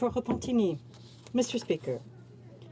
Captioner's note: speaking French